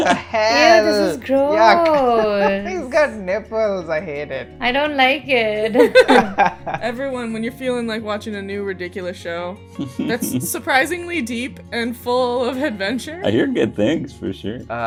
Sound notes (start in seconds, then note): 5.7 laughter